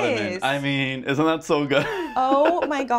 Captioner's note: laughs